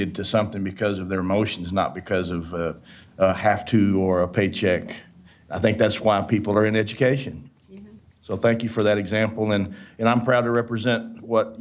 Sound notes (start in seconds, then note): none